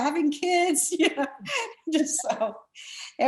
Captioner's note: laughs